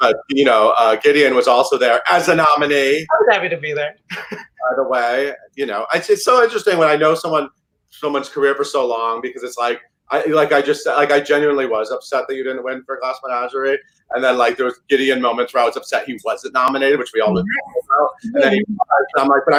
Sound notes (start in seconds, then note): 4.1 Gideon laughs